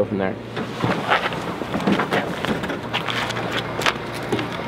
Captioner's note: equipments moving